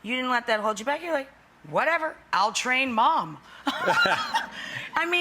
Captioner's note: laughs